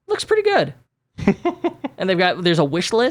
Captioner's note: laughs